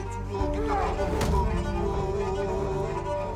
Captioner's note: yells; thud!